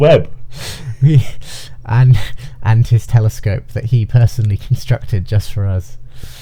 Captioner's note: chuckling